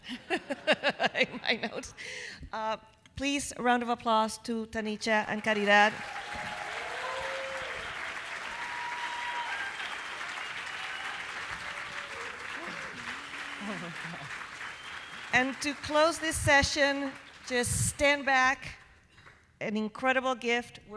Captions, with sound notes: (everyone laughing) in my notes. Please, round of applause to Tanicha and Caridad. (audience applauding) (audience cheering) And to close this session, just stand back, an incredible gift,